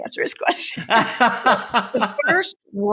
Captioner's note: laughs